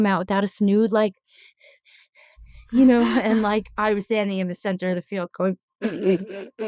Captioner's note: laughing